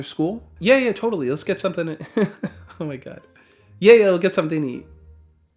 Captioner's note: laughs